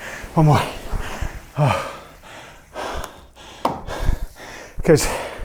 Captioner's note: breathing heavily